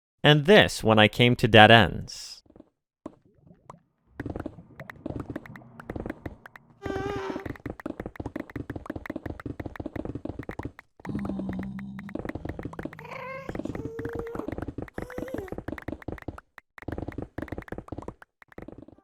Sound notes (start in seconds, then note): 4.1 digging Noises